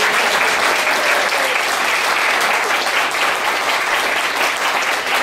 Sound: applause

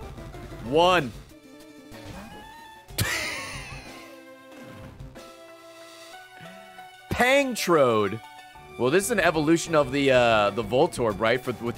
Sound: laughs

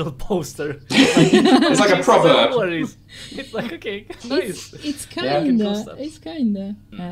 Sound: laughter

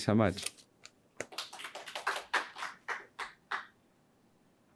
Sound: audience clapping

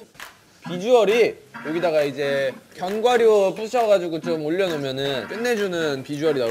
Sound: stirring

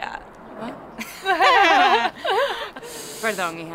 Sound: laughs

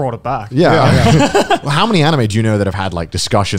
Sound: laughing loudly

